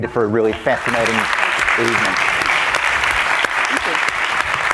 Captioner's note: audience applauding